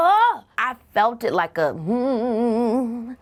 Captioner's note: humming